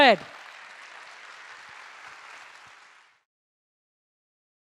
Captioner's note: audience applauding